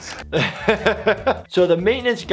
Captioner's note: laughs